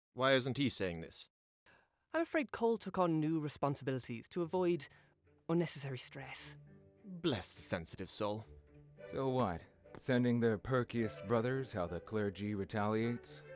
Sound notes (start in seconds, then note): none